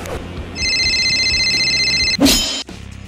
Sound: phone rings

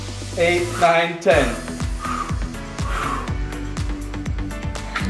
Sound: breathes

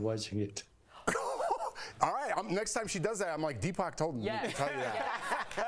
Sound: laughter

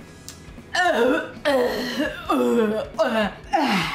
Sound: retching

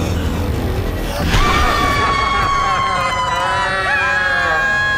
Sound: both scream; laughs demonically; both scream

